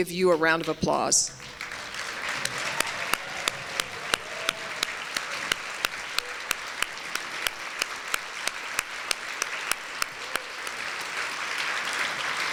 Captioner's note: applause and light cheers